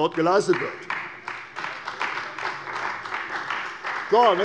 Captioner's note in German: Beifall bei der CDU